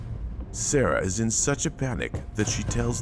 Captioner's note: knuckles rapping